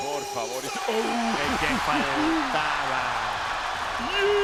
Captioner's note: laugh